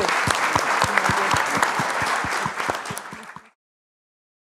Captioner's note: audience applauding